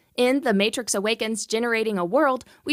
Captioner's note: none